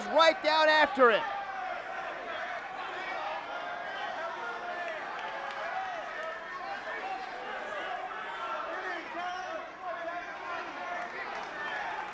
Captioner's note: applause